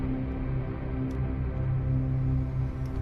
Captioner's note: keyboard clicking